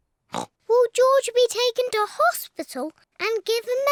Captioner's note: oinks